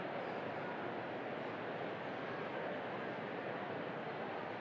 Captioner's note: none